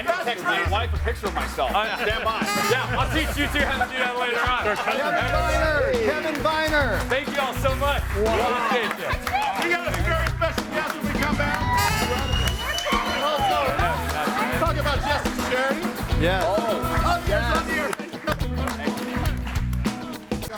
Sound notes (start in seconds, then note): 11.9 audience cheers